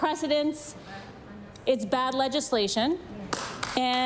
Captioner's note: applause